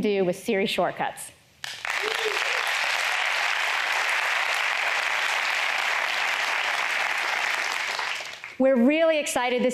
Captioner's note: applause